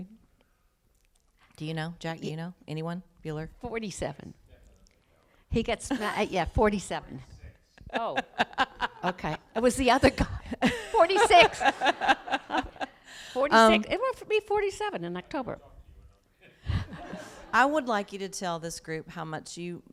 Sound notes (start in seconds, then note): 7.8 laughs